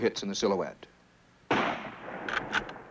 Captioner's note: bang